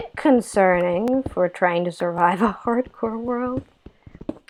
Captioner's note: laugh